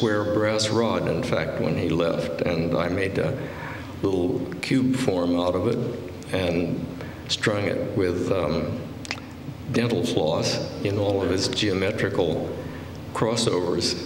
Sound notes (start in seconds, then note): none